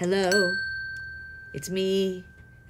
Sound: bell dinging

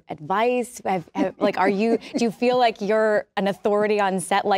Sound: laughs

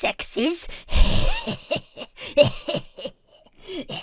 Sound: laughs raspily

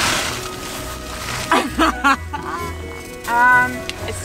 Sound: laughs

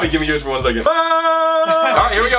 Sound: yelling

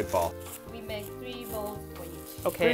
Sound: none

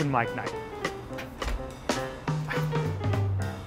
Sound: door opens; upbeat music

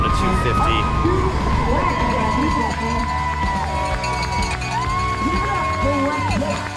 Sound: audience cheering; bell ringing

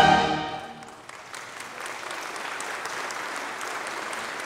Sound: congregation applauding

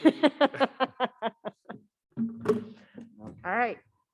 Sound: panelist laughing

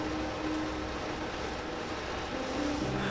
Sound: rain on window

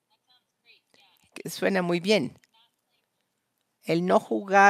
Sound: a través de intérprete

